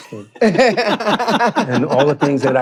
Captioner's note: laughing